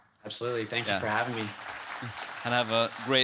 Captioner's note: audience clapping